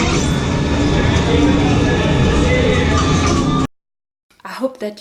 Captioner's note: mechanical humming